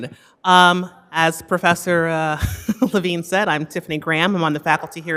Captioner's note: laughs